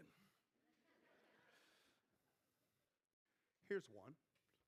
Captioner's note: crowd laughing